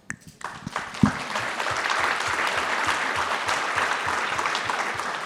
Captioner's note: audience clapping